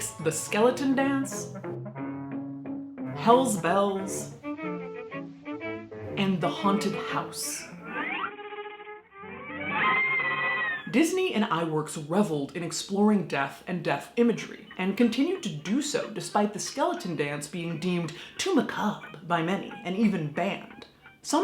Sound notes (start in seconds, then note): 9.5 scream